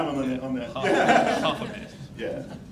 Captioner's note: laughing